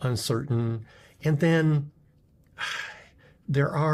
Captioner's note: sighs